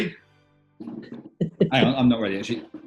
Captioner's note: chuckling